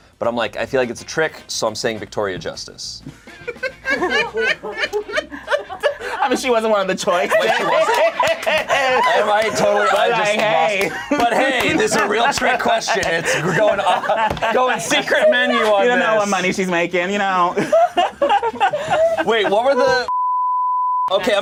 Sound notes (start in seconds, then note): 3.0 laughs; 7.6 group laughs; 8.7 overlapping chattering; 17.4 group laughs